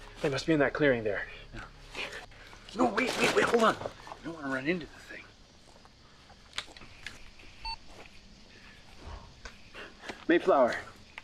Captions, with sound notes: They must be in that clearing there. - No, wait, wait, wait, hold on. You don't wanna run into the thing. (machine beeping) - Mayflower.